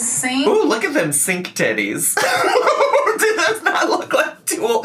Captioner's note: laughs